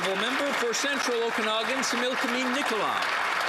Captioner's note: some Applause